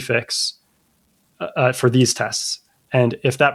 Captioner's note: uh